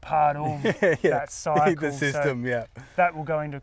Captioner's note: laughs